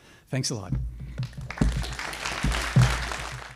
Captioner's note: applause